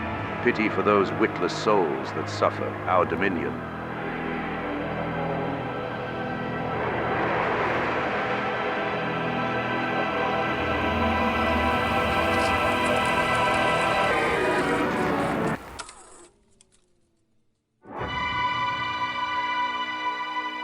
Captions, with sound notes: pity for those witless souls that suffer our dominion [UNEARTHLY HORN] [BURNING] [AUDIO DISTORTS] [SILENCE] [OMINOUS MUSIC]